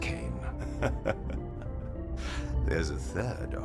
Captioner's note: laughing softly